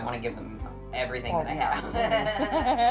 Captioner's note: all laughing